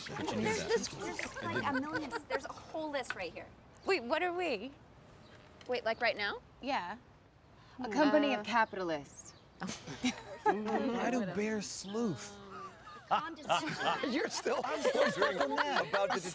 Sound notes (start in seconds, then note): 9.6 all chuckle; 12.2 Jon laughs